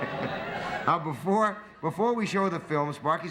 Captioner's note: laughter